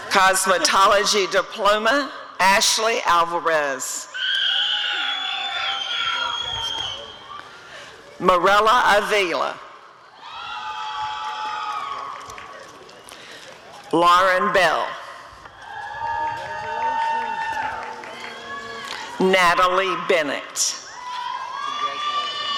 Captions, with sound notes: Cosmetology Diploma— Ashley Alvarez [audience cheering] Mirella Avila [applause and cheering] Lauren Bell [applause and cheering] Natalie Bennett [audience cheering]